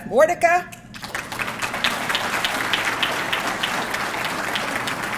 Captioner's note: audience clapping